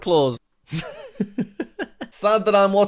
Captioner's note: laughs